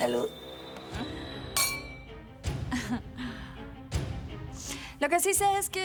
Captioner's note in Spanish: Sonido de las copas